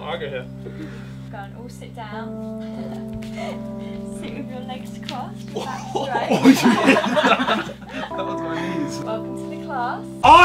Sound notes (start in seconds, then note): 3.2 laughing; 5.5 group laughing